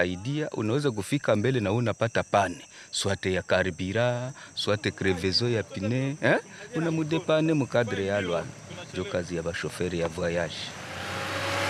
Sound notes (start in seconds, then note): 0.2 foreign language